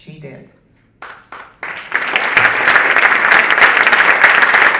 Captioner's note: audience applauding